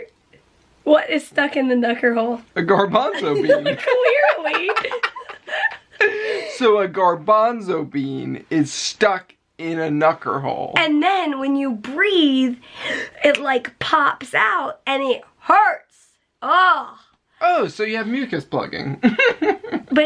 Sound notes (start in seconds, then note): 2.9 laughter; 19.0 chuckling